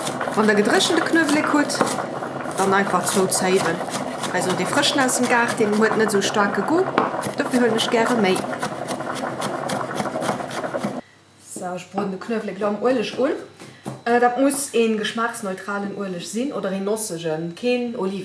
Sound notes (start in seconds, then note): 8.4 chopchopchop